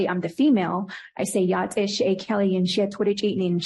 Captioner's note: foreign language